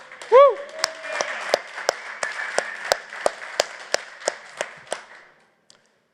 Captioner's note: applause